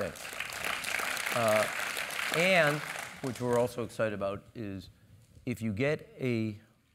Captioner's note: applause